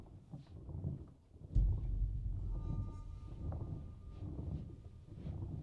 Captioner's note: distant rumble